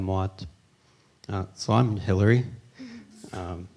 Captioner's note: in English